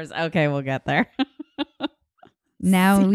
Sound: laughing

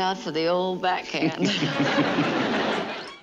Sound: laughing

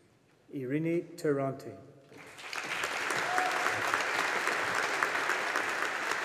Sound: audience applauding

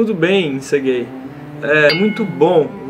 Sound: ding!

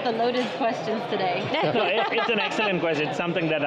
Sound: group laughing

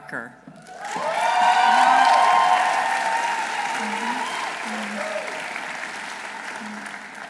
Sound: audience applauding; audience cheering

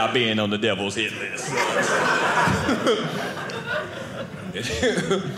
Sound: audience laughing

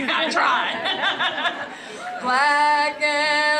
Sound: laugh

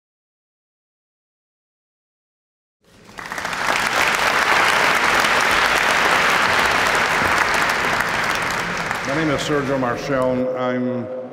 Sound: applause

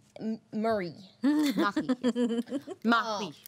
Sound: girl laughing

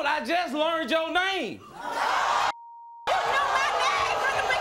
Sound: audience gasps

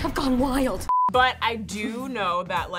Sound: beep

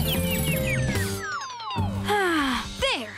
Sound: chirping; sighing

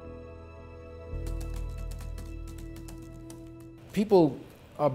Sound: keyboard clattering

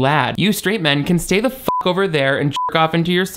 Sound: beep

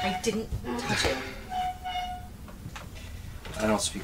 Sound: metal squeaking

